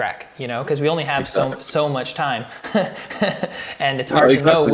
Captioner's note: laughing